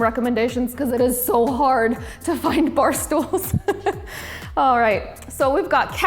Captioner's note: laughs